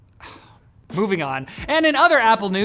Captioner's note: sighs